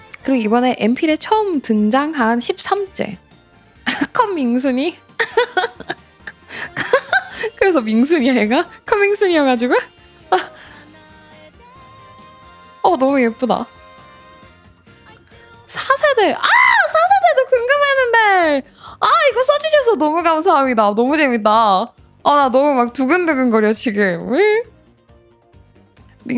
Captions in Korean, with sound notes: 그리고 이번에 엠필의 처음 등장한 13째 컴밍순이 [웃음] 그래서 밍순이야 얘가 컴밍순이어가지고 왜? 어, 너무 예쁘다. 4세대. 아, 4세대도 궁금했는데. 아, 이거 써 주셔서 너무 감사합니다. 너무 재밌다. 아, 나 너무 막 두근두근거려 지금.